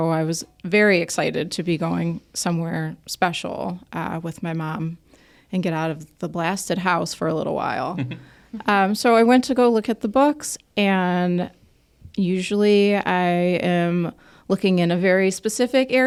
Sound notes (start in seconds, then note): 7.9 chuckles